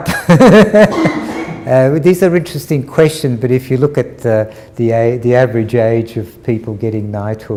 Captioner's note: laughter